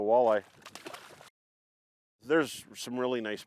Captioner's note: water splashing